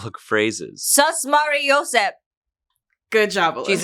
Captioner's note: speaks foreign language